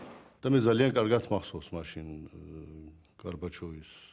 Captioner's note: speaking Russian